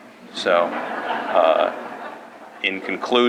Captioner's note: laughter